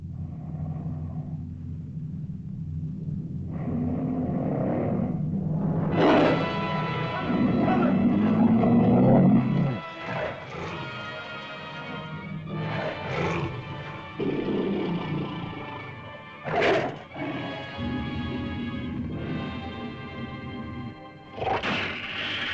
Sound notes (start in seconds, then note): 0.2 lizard growls; 0.2 tense music; 5.9 dramatic music; 5.9 lizard roars; 7.2 dramatic music; 7.2 lizard growls; 10.1 dramatic music; 12.5 lizard growls; 21.1 lizard growls & snarls